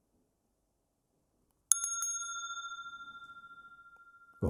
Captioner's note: rings the bell